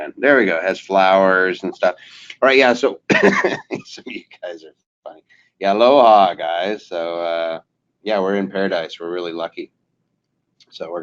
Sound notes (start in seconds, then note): 2.9 laughing